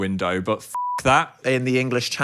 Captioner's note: beep